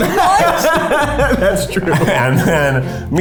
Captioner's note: laughing